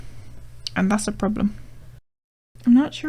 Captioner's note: british accent